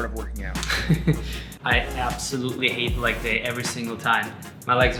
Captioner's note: chuckles